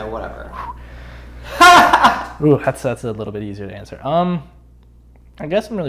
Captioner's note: cackling offscreen